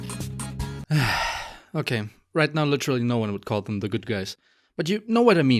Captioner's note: sighs